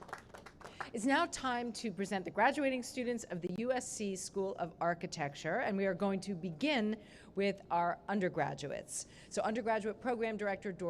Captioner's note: applause